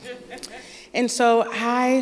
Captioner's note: laughter